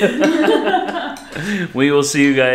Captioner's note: laughing